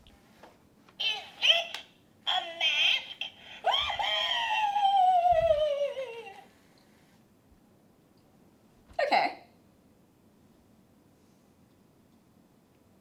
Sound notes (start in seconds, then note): 4.5 cackling